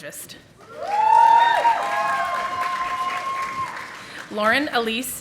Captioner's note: audience applauding